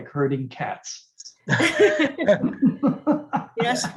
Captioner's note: laughter